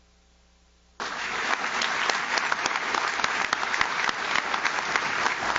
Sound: audience claps

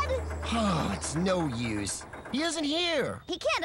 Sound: sigh!

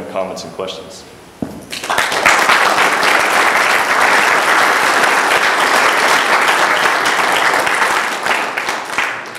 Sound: applause

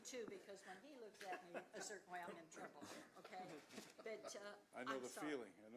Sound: laughter

